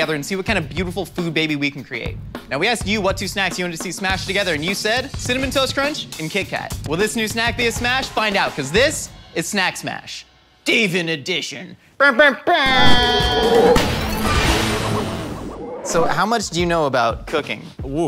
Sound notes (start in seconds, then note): 12.7 impersonating air horn; 13.1 smashing